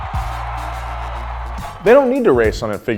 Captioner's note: crowd cheering